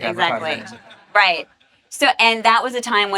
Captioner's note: audience laughs